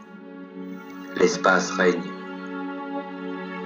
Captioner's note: voiceover of man speaking in french; melancholic music